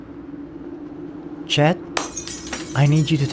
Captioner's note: window breaks